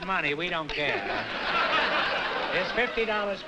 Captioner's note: laughter